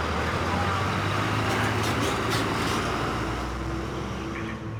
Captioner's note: bus engine rumbles